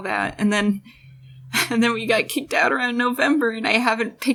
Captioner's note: huff